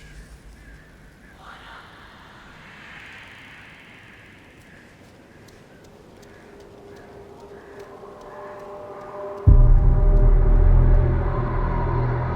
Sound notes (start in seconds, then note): 1.7 ghosts whispering; 9.6 eerie music